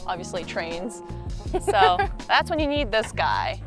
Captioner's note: giggles